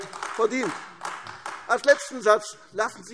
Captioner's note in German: Beifall AfD